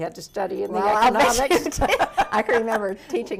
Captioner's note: laughs